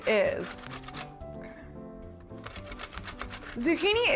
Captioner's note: grating sound